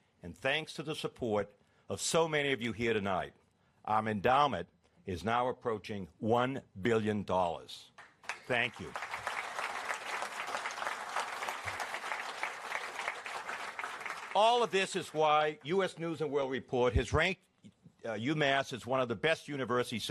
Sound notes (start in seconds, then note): 8.0 applause